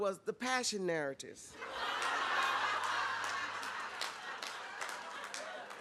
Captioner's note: laughter